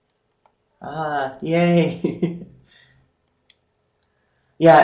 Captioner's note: laughing